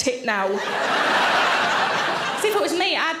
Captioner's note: audience laughing